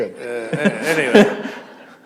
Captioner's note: chuckle